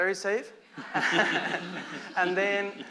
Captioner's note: laughter